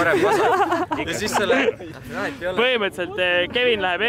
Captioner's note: everybody laughing